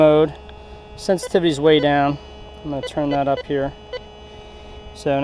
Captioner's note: detector beeps